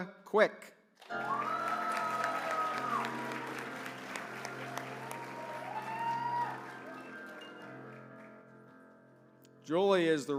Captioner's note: applause